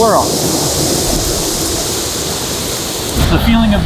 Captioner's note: heavy wind blowing